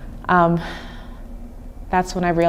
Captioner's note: sighing